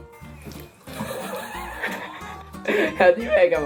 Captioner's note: devil laughter from mother